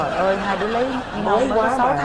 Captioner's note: laughing